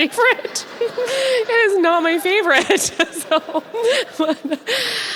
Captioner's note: audience laughs